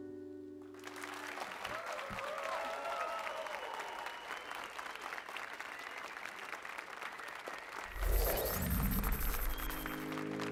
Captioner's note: applause and cheers